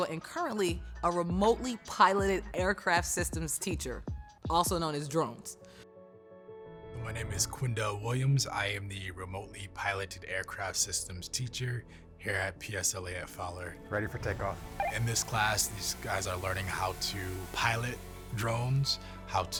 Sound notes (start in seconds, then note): 5.8 soft piano music; 14.8 walkie talkie beeps